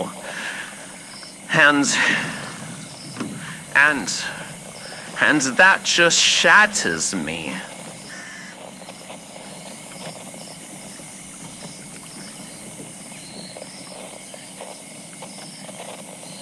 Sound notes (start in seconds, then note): 7.8 Alastor stops rowing boat fx